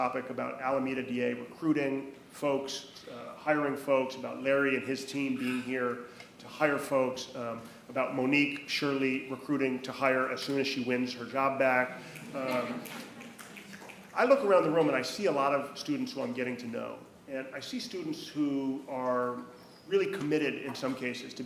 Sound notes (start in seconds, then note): 12.0 attendees laughing; 12.2 fingers clicking